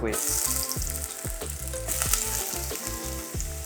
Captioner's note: sizzling sound